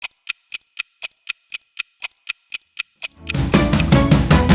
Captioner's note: clock ticks